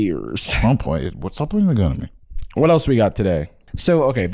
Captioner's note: slurring